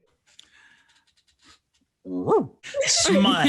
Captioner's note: barks